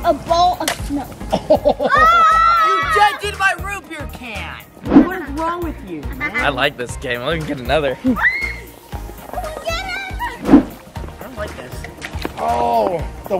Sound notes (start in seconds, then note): 2.4 all shouting